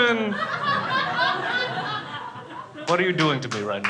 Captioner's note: crowd laughing